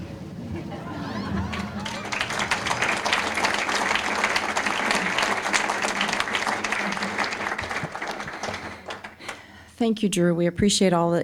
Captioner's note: applause